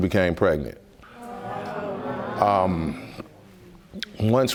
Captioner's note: audience murmuring